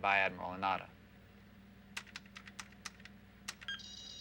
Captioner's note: keys clicking